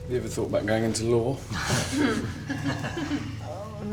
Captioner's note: laughing